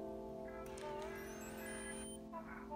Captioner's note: camera chimes on